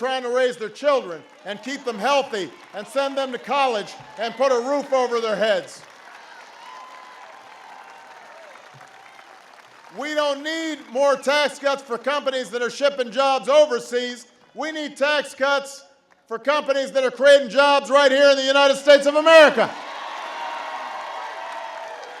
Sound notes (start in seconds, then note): 7.1 applause; 19.4 applause